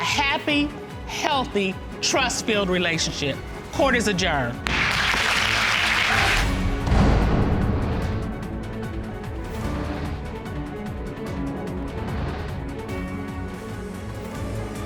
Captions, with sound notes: to have a happy, healthy, trust-filled relationship. Court is adjourned! (AUDIENCE APPLAUDS)